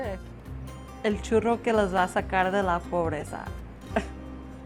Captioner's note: foreign language